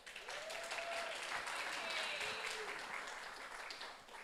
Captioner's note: audience applauds